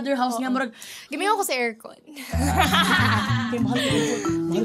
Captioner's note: both laugh